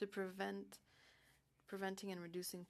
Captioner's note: speaking French